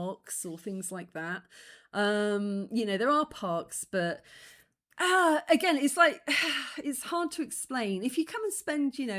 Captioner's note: sigh